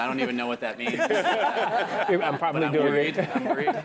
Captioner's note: laugh